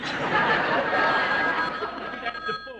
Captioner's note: telephone rings